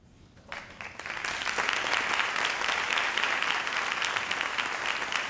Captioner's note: audience applauds